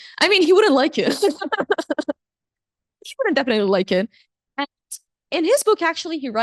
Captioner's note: chuckles